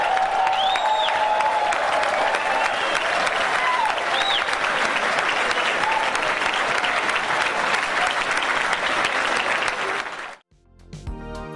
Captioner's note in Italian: Applauso